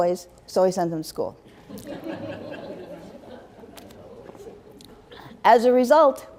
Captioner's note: laughter